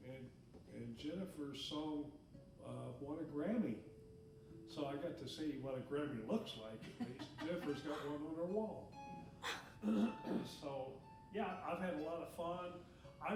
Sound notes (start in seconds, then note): 6.8 laughing